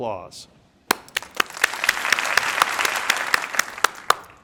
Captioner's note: crowd applauding